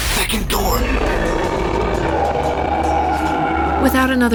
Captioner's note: hissing; another ROAR from Lezhio